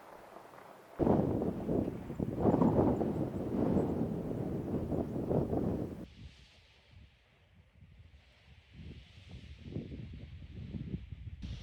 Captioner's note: wind blowing